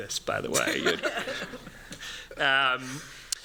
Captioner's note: laughter